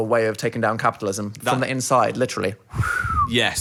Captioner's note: whistles